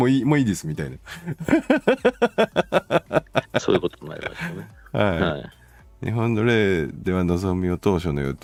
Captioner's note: laughs